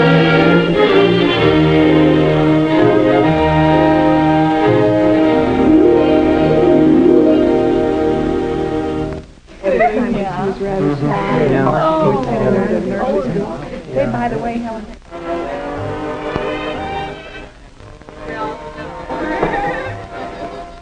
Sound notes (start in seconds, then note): 9.5 teenagers chattering